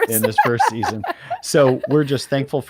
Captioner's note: laughter